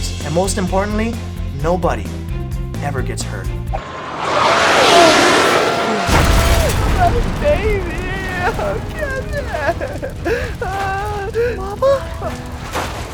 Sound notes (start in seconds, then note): 3.6 swoosh!; 5.8 sobbing; 6.1 kaboom!